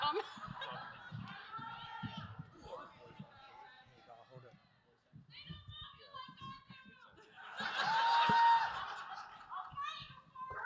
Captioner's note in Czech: smích